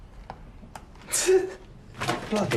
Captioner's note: jeremy chuckles